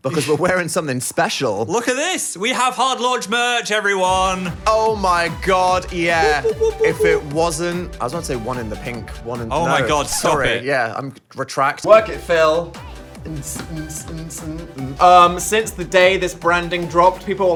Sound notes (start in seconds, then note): 4.1 upbeat music; 6.1 whooping